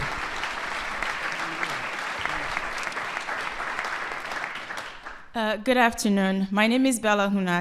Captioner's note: applause